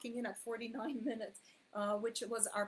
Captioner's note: chuckles while saying